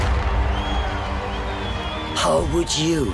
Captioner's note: crowd cheering